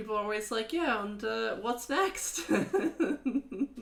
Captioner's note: laughs